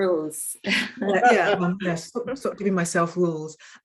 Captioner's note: woman chuckling